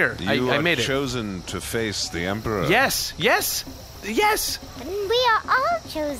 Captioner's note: excitedly